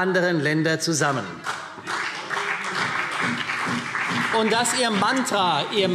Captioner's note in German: Beifall